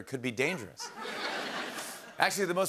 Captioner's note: laughter